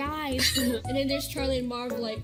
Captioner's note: laughs